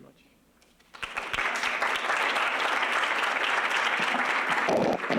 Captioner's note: applause